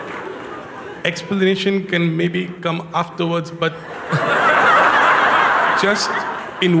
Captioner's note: Lachen und Applaus; Lachen